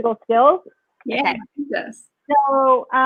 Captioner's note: speaks faintly